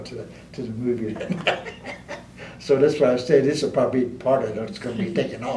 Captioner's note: laughter